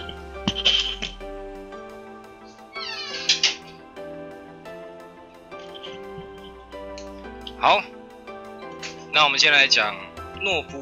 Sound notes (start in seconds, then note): 0.4 drops mic; 2.4 door closes